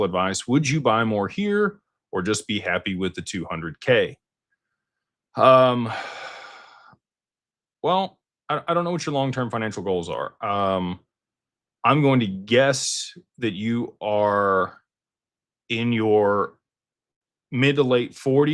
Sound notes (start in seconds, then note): 5.6 sighs